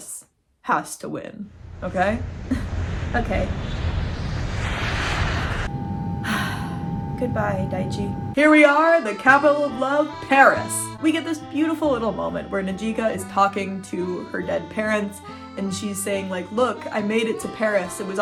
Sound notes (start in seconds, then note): 1.5 plane taking off; 6.2 sigh; 6.8 french music